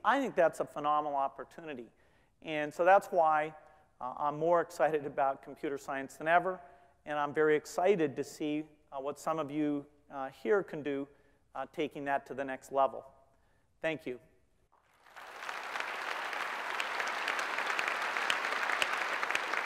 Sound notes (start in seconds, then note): 14.8 applause